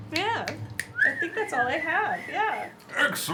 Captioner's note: whistles